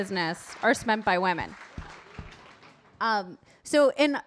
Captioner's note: audience applauding